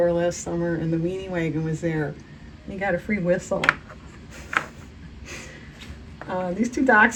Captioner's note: laughs